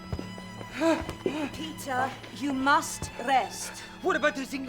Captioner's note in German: Stöhnen